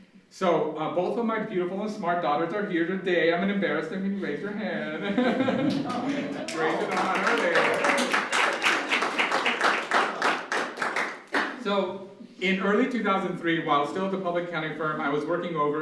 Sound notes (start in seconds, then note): 5.0 laughs; 5.6 audience applause